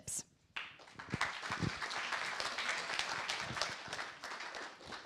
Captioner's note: applause